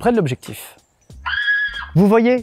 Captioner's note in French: Cri de femme